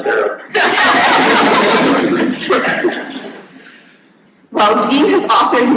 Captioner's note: audience laughing